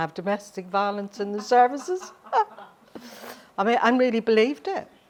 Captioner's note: laughing